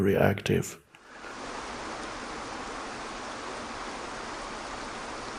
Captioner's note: waterfall rushes